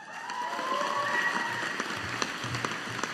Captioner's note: audience applauding